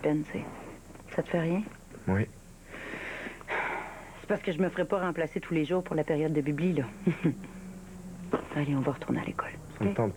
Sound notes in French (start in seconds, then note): 3.7 Elle soupire